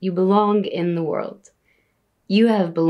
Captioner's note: speaking in Arabic